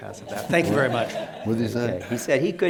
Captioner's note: laughter